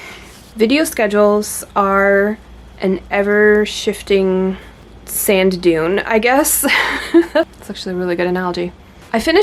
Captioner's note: laughs